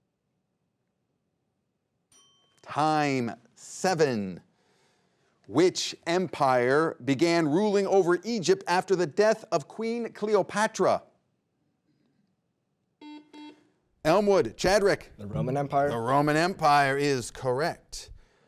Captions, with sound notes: (buzzer rings) Time. Seven. Which empire began ruling over Egypt after the death of Queen Cleopatra? (buzzer rings) Elmwood. Chadryk. - The Roman Empire? - The Roman Empire is correct.